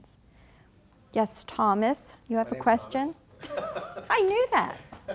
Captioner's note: laughing